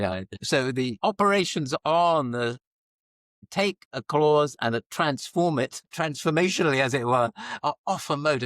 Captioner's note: laughs